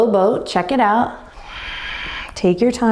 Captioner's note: exhaling deeply